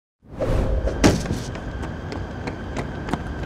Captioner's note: whooshing